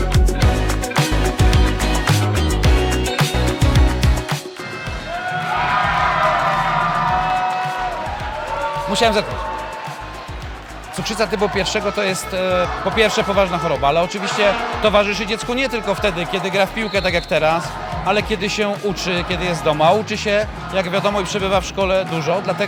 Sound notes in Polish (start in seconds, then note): 4.3 Aplauz